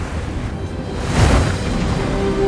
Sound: waves crashing; dramatic classic music

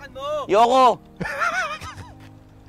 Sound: laughs

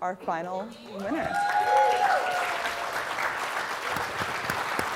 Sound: applause

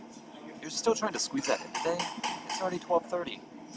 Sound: object tapping

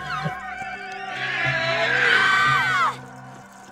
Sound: braying

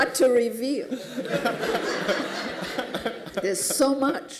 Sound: laughter

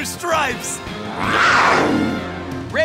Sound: roaring

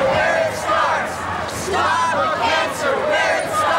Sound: crowd

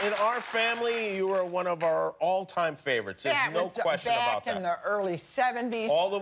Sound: applause

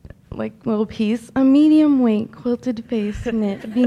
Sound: in affected tone

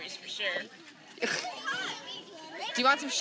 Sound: unidentified background chatters

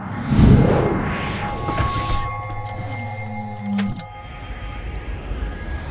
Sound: mechanical whirring

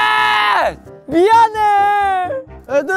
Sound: sob

